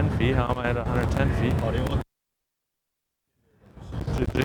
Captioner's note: crackles